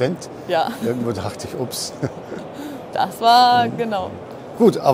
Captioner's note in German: lachen